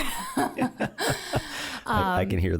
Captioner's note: both laughing